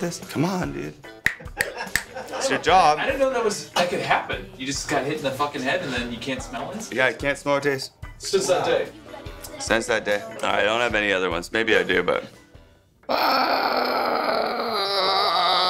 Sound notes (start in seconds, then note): 13.0 yells